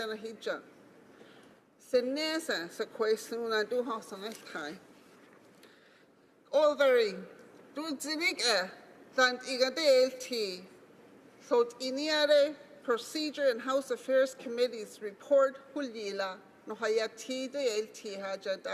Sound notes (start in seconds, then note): 5.5 speaking Alternate Language